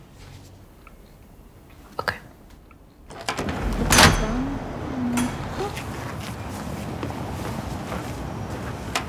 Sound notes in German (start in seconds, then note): 3.5 Straßenlärm